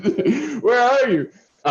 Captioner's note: laughter